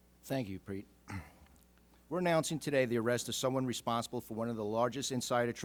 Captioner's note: clears throat